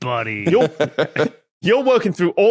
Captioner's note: chuckles